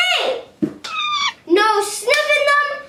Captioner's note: monkey squeal